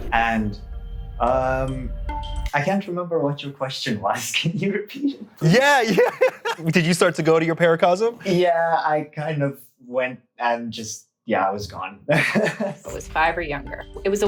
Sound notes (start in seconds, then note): 5.4 laughs; 5.4 chuckles; 12.1 chuckles